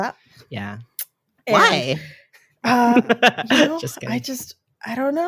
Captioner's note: lauhgs